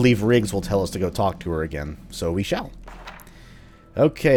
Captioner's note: journal opens